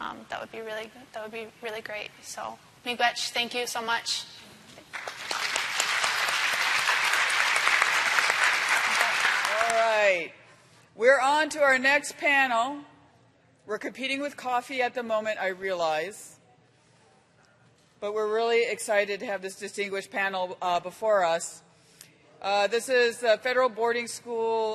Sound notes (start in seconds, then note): 9.4 applause